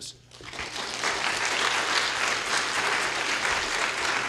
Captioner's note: applause